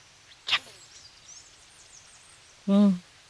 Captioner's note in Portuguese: imitando o som do corte